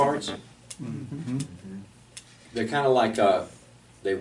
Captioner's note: students murmur agreement